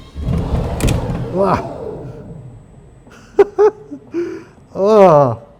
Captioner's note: laughs